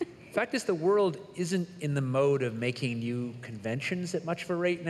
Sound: laughter

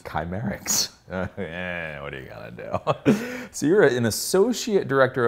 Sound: laughs

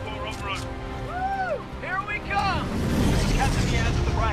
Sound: radio

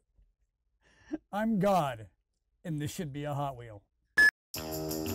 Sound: screen beeps; upbeat music

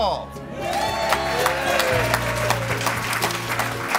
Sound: cheering and applause

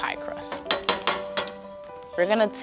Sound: metal clanging

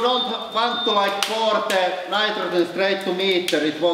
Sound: alarm stops

